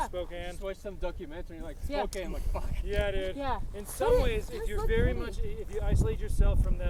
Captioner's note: laughs